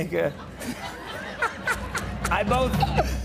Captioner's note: laughter